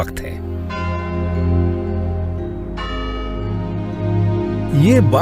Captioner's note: bell tolls